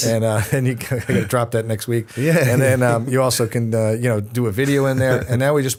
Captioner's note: chuckle